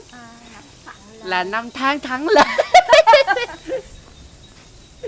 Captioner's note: laugh